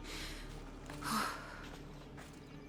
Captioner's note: exhale